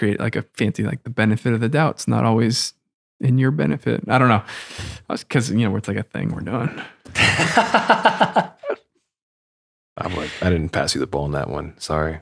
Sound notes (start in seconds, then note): 7.1 Fr. Innocent laughs